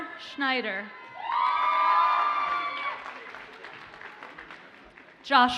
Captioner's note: audience cheers and applauds